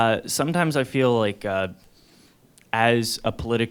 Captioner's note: voiceover